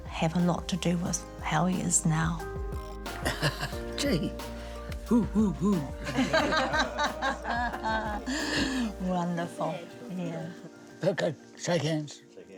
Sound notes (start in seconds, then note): 5.1 laughs; 9.1 all laugh